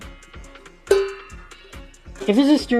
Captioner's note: ringggg